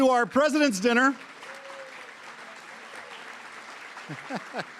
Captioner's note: applause